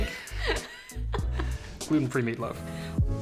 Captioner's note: chuckling